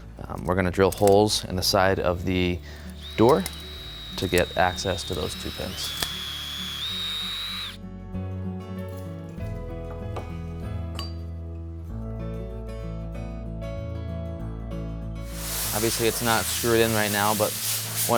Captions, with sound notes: We're gonna drill holes in the side of the door to get access to those two pins. (drill humming) (mellow music) Obviously it's not screwed in right now, but,